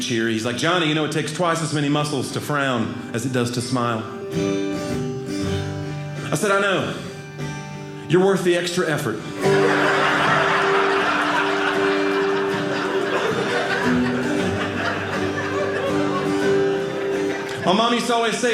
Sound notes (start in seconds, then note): 9.6 audience laughing; 12.1 guitar playing